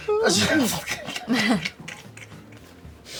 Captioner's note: laughs